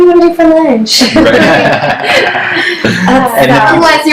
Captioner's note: laughs